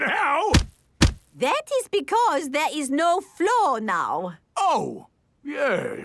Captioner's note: thuds